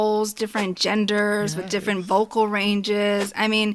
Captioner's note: whoosh